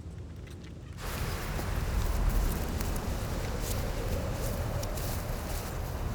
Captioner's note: strong wind blowing